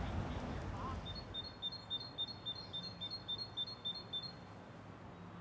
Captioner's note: bird sounds